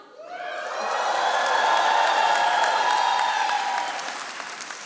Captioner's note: audience applauding